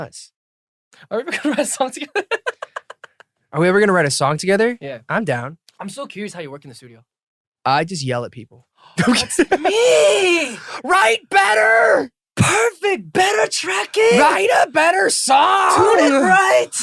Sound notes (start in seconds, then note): 1.3 laughs; 8.7 gasp